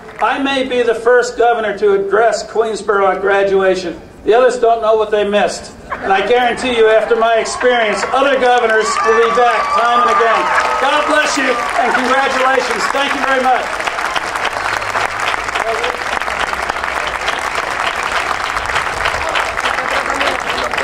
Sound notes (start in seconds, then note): 13.9 audience cheering and applauding